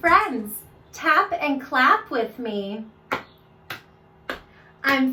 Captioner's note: clapping